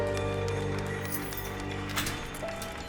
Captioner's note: keys rattle